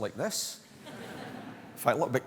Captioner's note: laughter